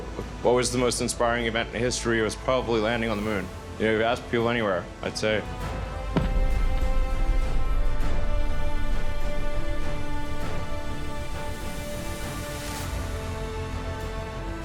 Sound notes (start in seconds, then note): 6.0 ship thumps